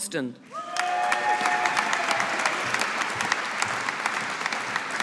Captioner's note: audience applauding